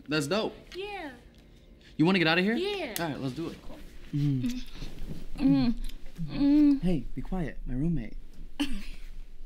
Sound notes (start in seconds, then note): 4.2 kissing